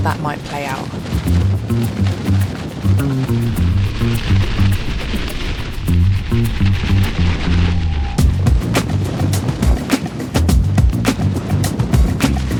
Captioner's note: wind